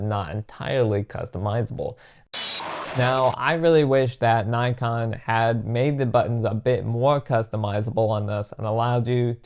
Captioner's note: static